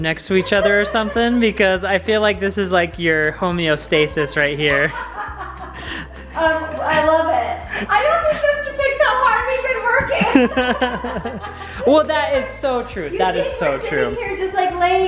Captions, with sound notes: next to each other or something, because I feel this is your homeostasis right here. (laughing) - I love it. - I don't think this to pick so hard, we've been working. (laughing) - Well that is so true, that is so true. - You think we're just sitting here